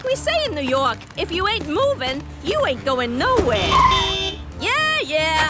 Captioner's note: honking